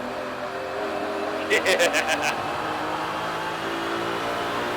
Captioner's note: even more childish laughter